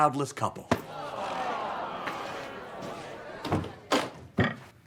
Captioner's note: audience moans